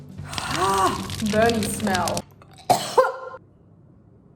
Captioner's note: coughs